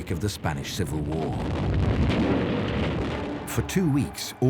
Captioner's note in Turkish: çoklu patlamalar